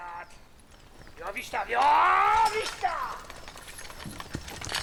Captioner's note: man shouting in Polish